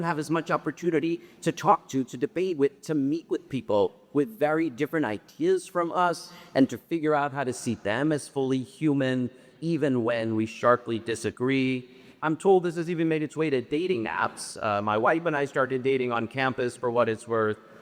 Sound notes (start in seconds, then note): none